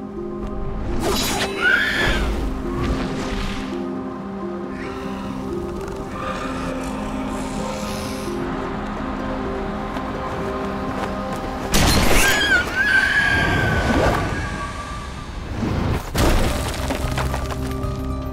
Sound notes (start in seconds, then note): 1.2 screeches; 6.2 Grimm growling, squawking; 12.1 screams